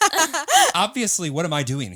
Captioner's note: all laughing